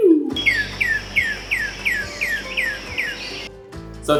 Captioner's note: vocalization plays